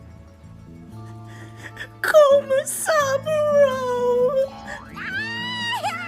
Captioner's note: Komama cries; Komasaburo laughs